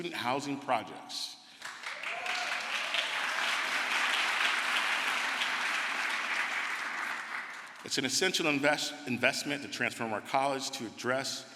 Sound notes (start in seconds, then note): 3.4 crowd applause